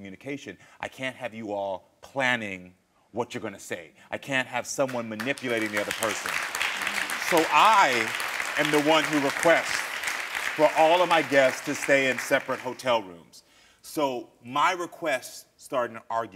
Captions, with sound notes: I can't have you all planning what you're gonna say. I can't have someone manipulating the other person. (audience applauding) So I am the one who requests for all of my guests to stay in separate hotel rooms. So my request started an argument